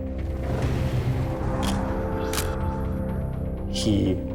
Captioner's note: camera shutter click